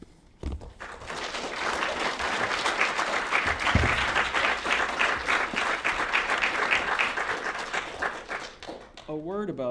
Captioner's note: applause